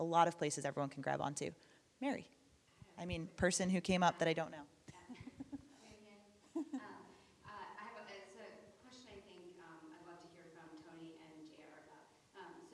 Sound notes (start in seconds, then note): 6.5 laughing